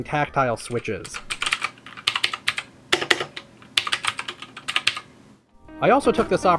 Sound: loud keyboard clicking

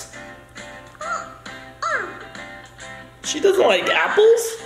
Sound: baby sounds

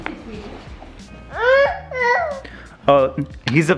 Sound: grunting

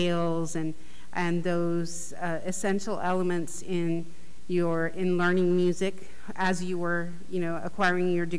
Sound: none

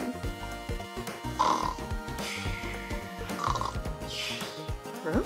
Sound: snoring Sounds

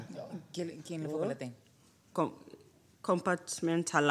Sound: Phumzile speaks foreign language; speaks foreign language

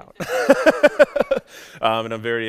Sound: laughs

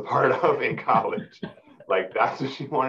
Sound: laughing

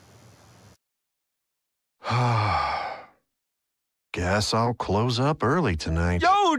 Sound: sigh

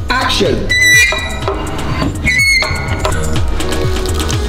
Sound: squeaking

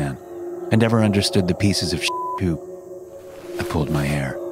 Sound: beep

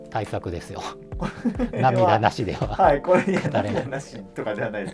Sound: laughing

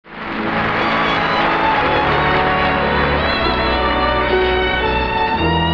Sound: audience applauding; gentle orchestra music

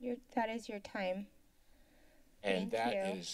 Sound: silence

